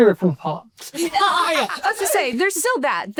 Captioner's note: laughs